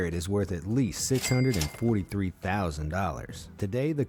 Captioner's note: cash register ringing